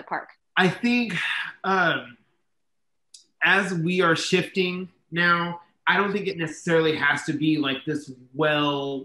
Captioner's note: exhales